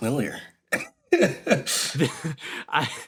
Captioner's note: laughs